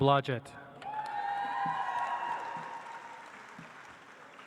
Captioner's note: audience applauds